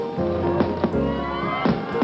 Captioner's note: crowd cheering; cracking, popping